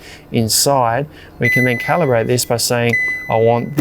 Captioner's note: fridge beeps